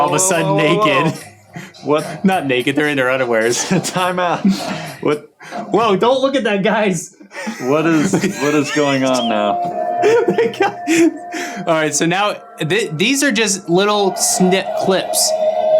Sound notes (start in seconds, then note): 10.0 laughing